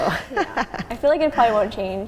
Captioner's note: laughing